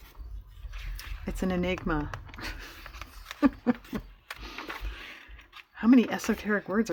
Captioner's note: laughs